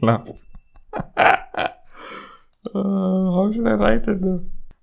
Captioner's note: laughs